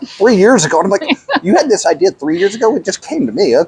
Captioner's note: laughs